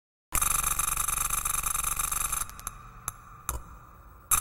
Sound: clicking noises

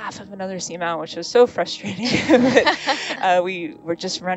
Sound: both laughing

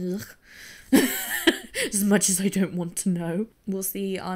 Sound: laughs

